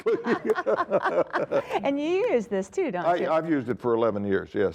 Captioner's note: laughing